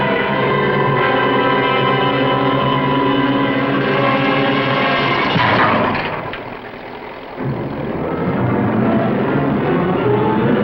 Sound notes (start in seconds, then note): 3.9 hammering